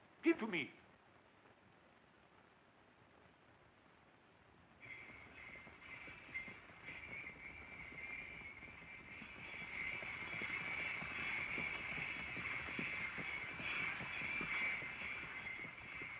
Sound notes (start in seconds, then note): 4.8 bells jingling